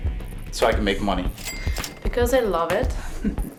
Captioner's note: ching